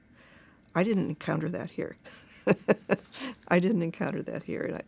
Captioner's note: chuckles